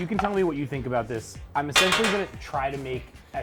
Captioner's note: pan clangs